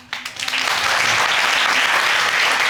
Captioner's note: audience applauding